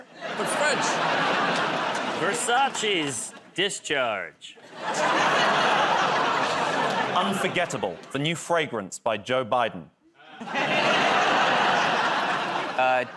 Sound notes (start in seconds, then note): 4.7 laughter, groaning; 10.2 laughter